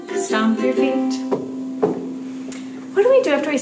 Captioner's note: stomps